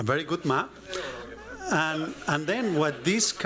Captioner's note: laughter